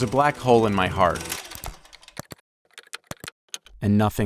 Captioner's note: film reel skipping